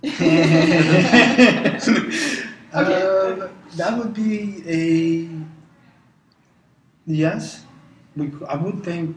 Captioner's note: laugh